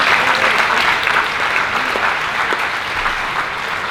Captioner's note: applause